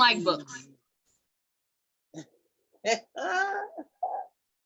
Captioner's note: laughs